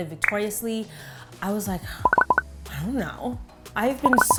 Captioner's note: pops